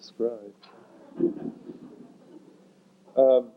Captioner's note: laughter